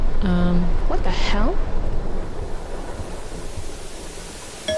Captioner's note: TV static; doorbell